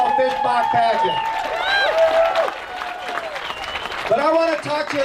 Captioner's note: clapping and cheering